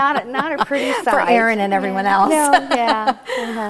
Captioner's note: laughing